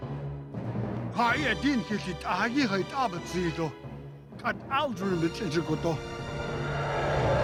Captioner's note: speaking Navajo